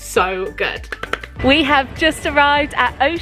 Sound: hands clapping

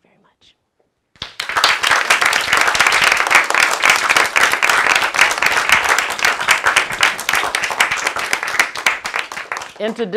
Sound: applause

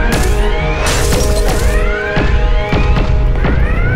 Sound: shots firing

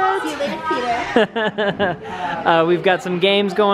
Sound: laughing

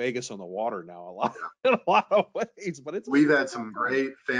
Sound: laughs

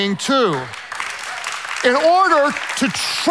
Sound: hands clapping loudly

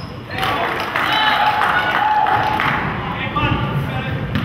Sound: crowd claps

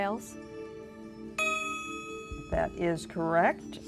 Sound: ding

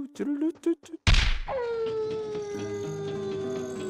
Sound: wolf howling in the distance

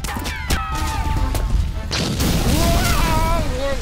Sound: none

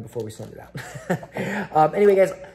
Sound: laughs

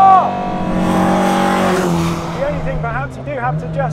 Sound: engine revving

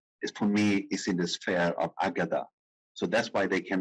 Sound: speaking in foreign language

